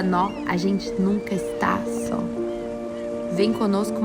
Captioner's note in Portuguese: Chilrear